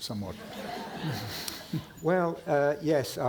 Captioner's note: audience laughing